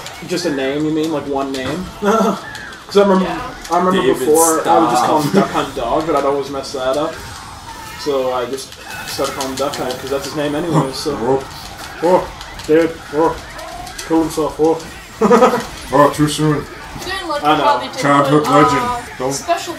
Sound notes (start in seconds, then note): 14.8 laughs